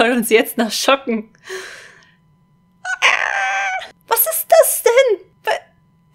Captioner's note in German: Geräusch volkommenen Schmerzes